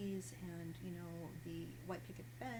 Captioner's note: none